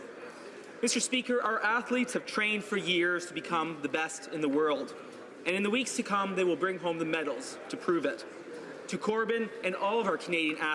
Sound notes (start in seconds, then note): none